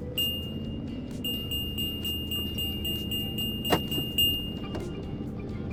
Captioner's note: bells chime